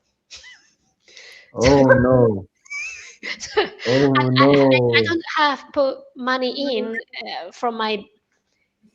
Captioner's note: laughter